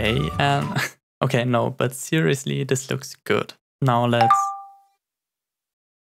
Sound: notification

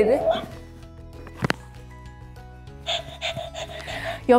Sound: puppy mumbling; puppy panting

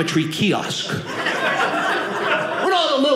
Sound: audience laughing

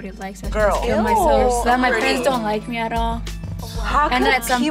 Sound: all gasping

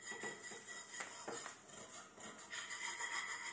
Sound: the sound of Mom cleaning the pots

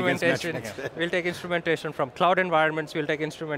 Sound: chuckles

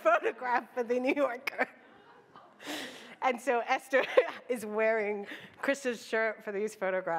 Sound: laughs

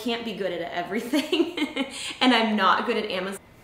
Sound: laughs

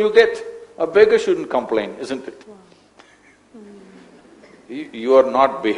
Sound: laughs

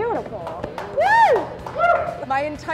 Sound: clapping

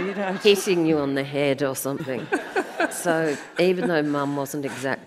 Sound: audience laughs

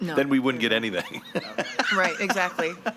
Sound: laughs

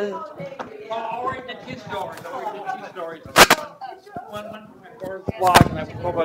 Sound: murmuring

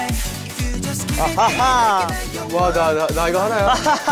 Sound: relaxed laugh

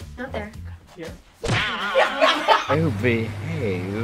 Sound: laughs

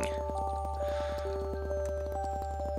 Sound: breathing

